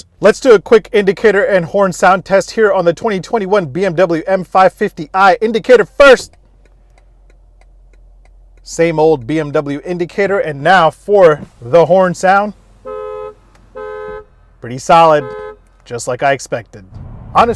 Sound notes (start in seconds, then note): 6.3 car indicator clicking; 12.2 car honking